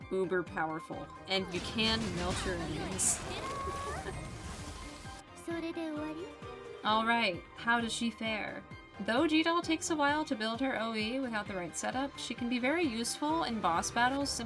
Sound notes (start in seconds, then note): 2.8 laugh